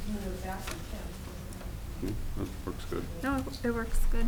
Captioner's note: woman mumbling